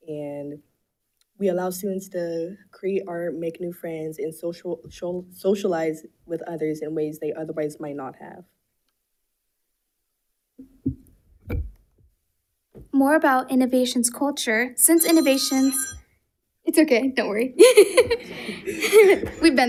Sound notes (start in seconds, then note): 14.8 alarm rings; 17.6 laughs